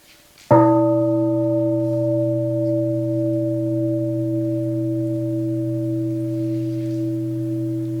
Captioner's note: bell rings